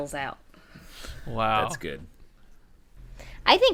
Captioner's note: laughter